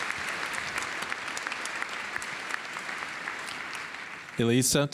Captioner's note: applause